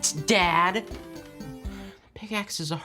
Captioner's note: sighing